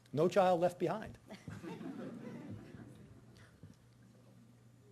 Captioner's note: audience laughing